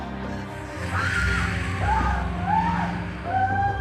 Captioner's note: screaming; snake hissing